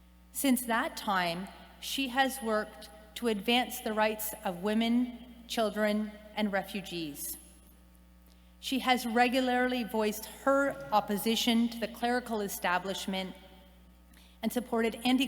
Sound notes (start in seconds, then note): none